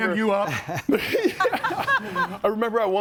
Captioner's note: group laughs